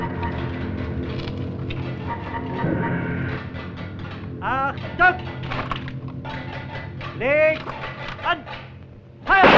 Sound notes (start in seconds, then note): 4.4 German spoken audio